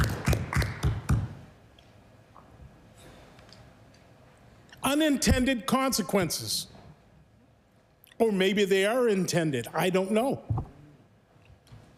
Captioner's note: applause